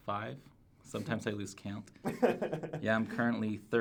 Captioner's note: laughs